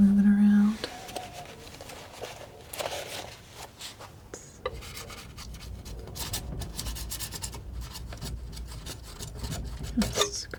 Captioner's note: tapping